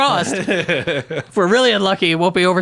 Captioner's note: laughs